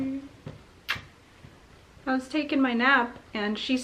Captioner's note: kissing